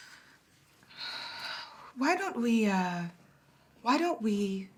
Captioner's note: sighs